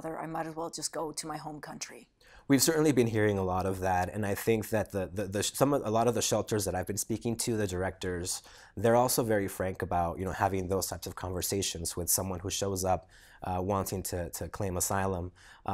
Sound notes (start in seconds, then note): none